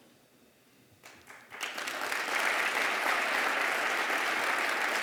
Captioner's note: applause